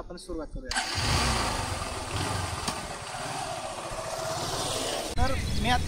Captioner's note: bike starts